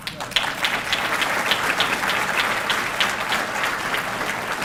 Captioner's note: audience clapping